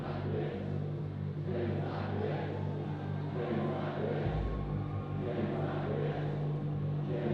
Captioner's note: crowd